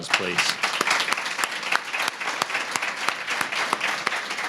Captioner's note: applause